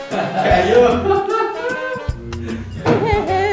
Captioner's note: mocking laughter